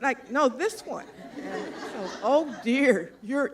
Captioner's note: laughter